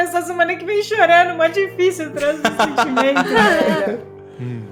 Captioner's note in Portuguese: Risos